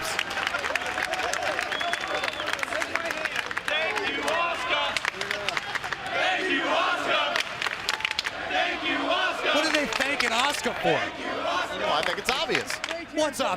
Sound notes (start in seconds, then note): 5.5 fans chanting